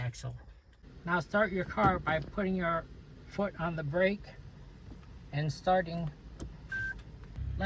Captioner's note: the engine